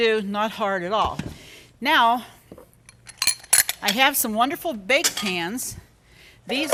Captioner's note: bowls clanking